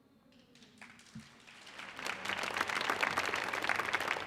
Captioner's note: audience applauding